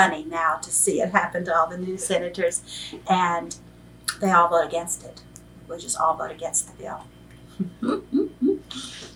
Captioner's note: laughs